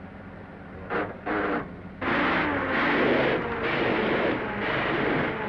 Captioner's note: engine sputtering